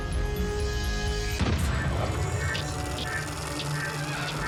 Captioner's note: gunshot